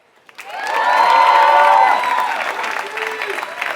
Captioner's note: applause